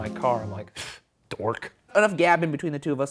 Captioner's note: scoffs